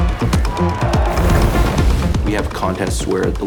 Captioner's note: cheering; splashing